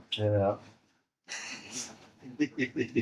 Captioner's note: lauging